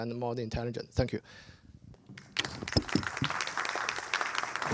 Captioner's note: applause